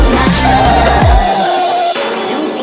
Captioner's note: bang!